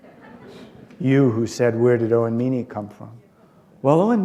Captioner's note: laughter